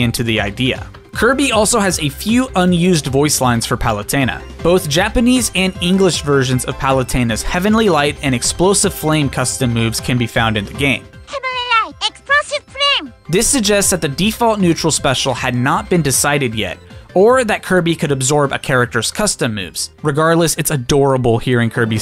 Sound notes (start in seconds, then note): 11.0 Kirby's Japanese voice line as Palutena plays